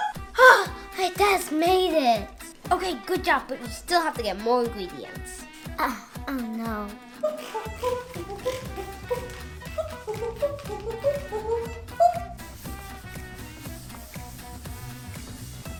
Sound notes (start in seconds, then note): 0.0 gasps; 5.5 gasps; 7.5 vocalizes